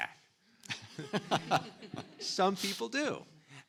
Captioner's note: audience and panelists laughing